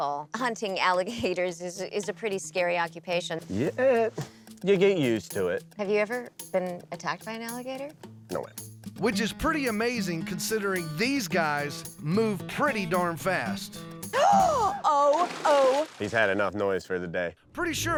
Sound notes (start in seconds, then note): 14.1 gasps